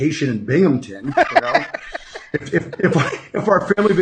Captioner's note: laughing